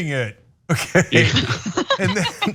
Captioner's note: laugh